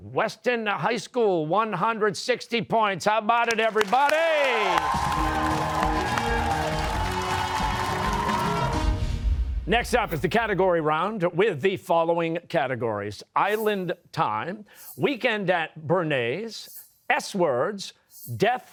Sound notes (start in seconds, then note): 3.5 cheers and applause